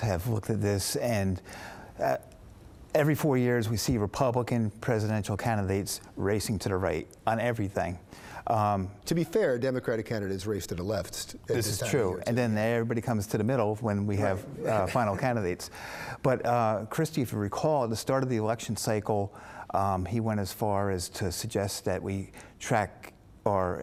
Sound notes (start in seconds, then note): 14.2 laughs